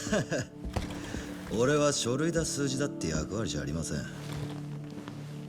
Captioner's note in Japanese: 笑い